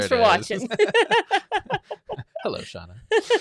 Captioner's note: speakers laugh